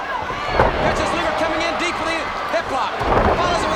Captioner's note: body thudding